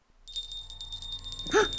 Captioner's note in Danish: klokkelyde